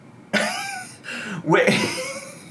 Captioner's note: laughs